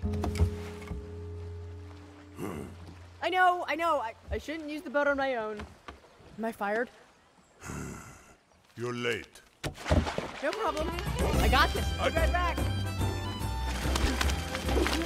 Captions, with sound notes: (GRUNTS) I know, I know, I shouldn't use the boat on my own. Am I fired? (SIGHS) -You're late. -(WATER SPLASHES) -No problem. I got this! Be right back! -Oh! I...